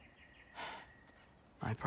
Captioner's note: sigh